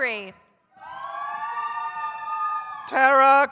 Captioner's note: audience cheers